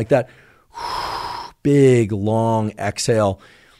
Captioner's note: exhales